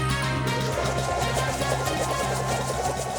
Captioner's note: copter flutters